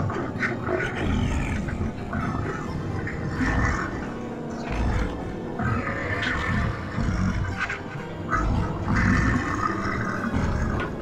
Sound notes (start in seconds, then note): 3.9 monstrous mumbling